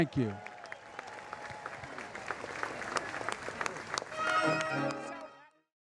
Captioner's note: applause